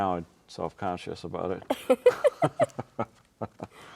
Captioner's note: both laughing